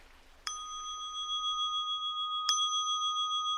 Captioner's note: water gushing; bell chimes